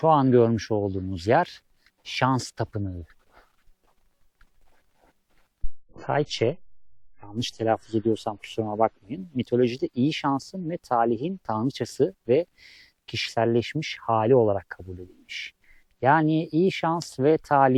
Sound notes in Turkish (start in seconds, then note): none